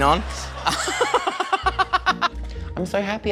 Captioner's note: he laughs hysterically